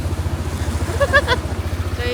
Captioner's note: laughs